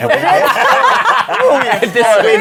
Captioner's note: laughter